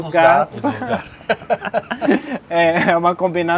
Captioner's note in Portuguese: risos